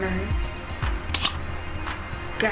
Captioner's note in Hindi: mouse click sound🎼